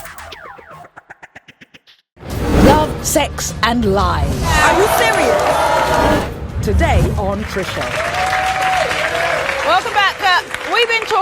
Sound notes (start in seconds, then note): 4.4 audience yells; 7.7 audience applauds